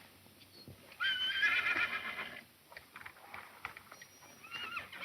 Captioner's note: horse neighs